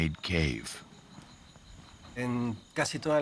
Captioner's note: speaking Spanish